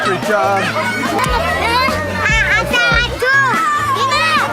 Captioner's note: children chatter